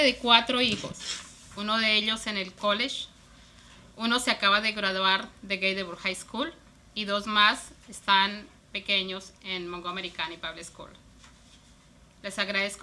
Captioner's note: speaking spanish